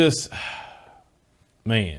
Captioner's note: sighs